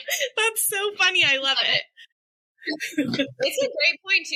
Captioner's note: laughter